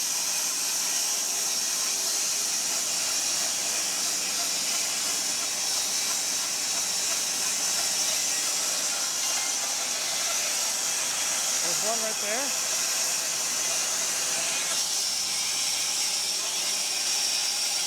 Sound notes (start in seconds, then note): 13.7 saw whirring